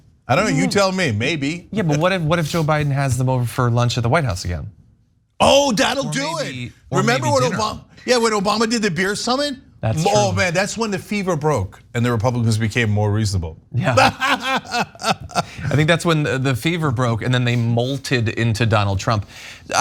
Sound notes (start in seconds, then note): 13.8 laugh